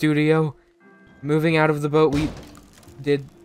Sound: board breaking sound

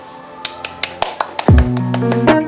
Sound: round of applause

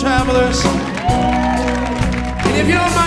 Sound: audience cheers

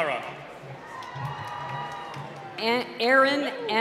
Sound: cheering

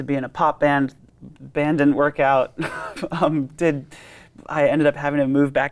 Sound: laughs

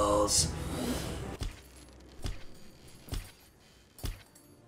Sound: thumping footsteps

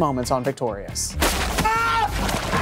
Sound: screams

